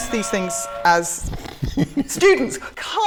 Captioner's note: buzzer